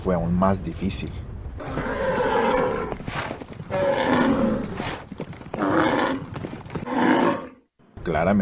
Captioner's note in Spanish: Bramido y galope de bestia enorme